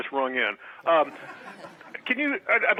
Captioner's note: laughing; audience laughing